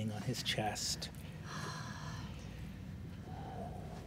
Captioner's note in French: soupire profondément